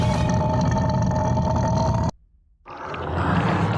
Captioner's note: deep Growl